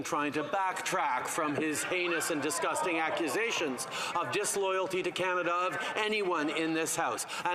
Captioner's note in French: voix de l'interprète